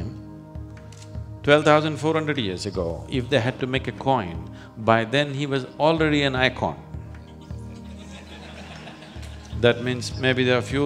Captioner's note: laughter